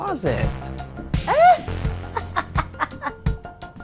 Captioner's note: laughs